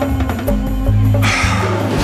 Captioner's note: exhales